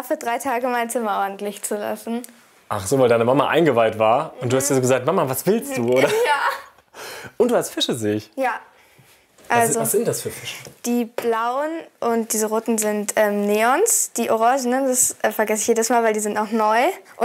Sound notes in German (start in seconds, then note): 7.2 lachend